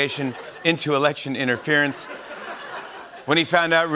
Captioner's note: laughter